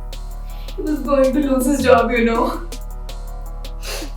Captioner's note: crying